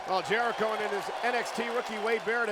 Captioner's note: crowd cheering